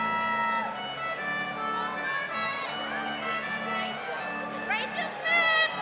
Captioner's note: overlapping chattering; audience cheers